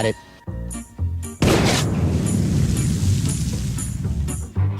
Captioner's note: mine explodes